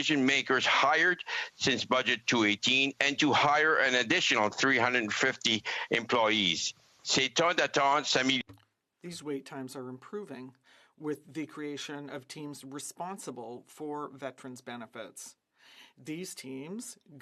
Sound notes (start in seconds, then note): 10.5 speaking French